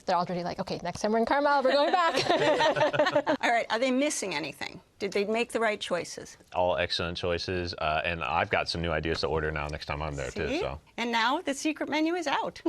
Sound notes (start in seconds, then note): 1.9 all laugh